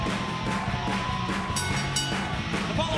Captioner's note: bell ringing